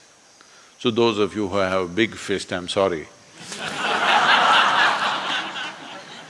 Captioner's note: laughter